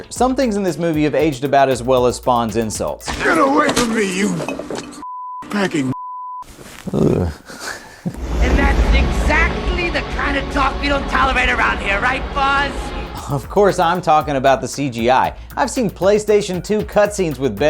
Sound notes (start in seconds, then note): 5.0 beep; 6.8 grunting lightly